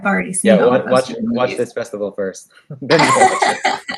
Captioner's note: laughs